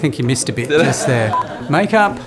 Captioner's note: laughter